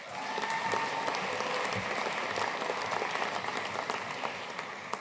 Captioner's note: audience cheering and applauding